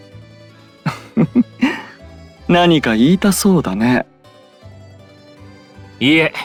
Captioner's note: laugh